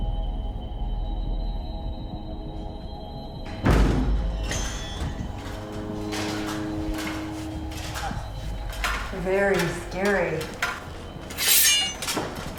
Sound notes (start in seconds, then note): 3.7 objects thudding; 5.4 armor rattling; 11.3 sword sheathing